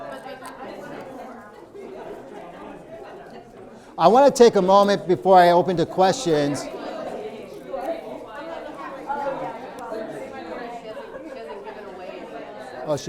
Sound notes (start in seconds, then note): 0.0 people talking; 6.8 people talking